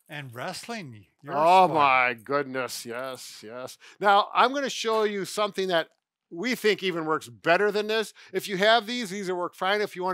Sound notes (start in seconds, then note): none